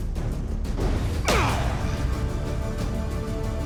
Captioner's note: grunt